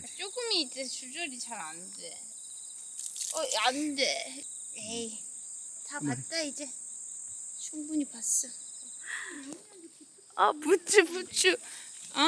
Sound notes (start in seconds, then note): 3.4 voice noticeably bummed out